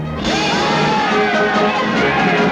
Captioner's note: cheering